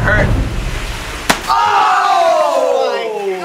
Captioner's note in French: gémissements